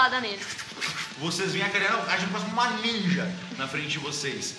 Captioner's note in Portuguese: golpes